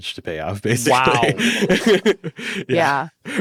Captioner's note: laughs